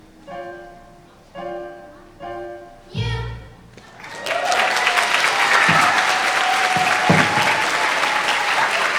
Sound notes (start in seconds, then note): 3.8 audience applauding